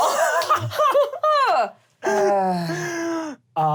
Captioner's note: laughter